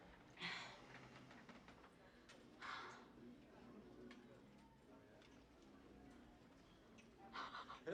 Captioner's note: none